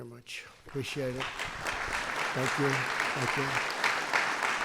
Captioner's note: applause